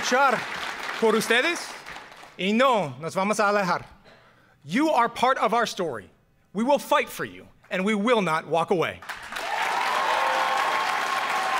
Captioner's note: speaking in spanish